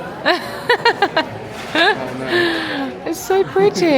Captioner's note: laughs